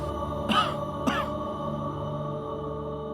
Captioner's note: coughing